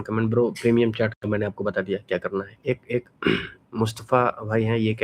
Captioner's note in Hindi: गला साफ़ करने की आवाज़